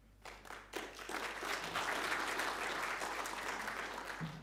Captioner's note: audience applauding